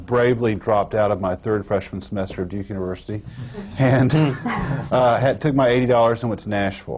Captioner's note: laughter